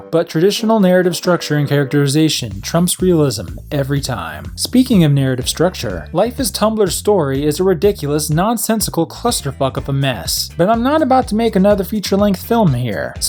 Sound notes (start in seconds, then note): none